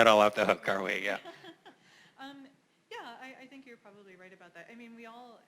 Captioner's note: laugh